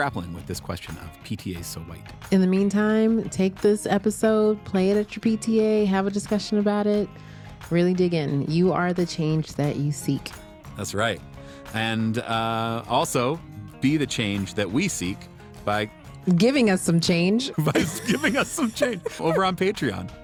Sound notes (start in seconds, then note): 17.5 amused tone; 17.5 laughing, laughs